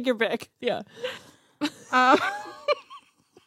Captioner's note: laughs